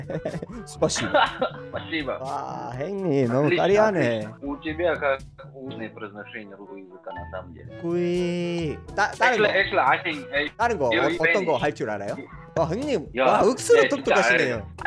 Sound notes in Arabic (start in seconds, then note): 4.3 تتحدث باللغة الروسية